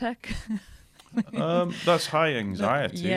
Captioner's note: laughter